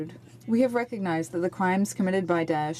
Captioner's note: speaking French